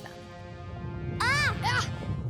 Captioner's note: Aang and Toph, groaning